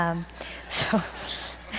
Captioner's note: audience laughs